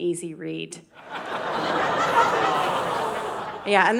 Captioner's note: audience laughing